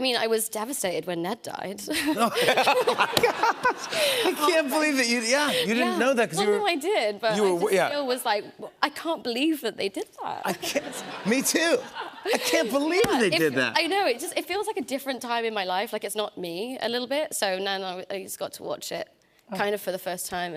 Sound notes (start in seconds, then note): 1.9 laughter